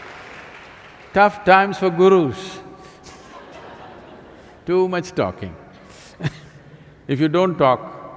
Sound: laughter; laughs

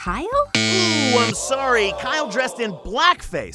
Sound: buzzer sound

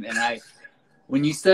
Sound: laughs

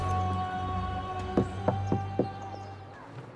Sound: Ezio knocks

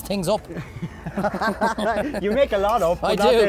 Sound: both laugh

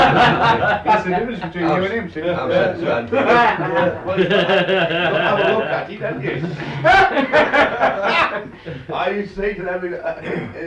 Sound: laughter; laughter

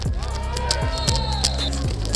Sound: whistle

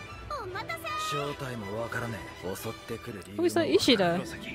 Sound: speaking in foreign language

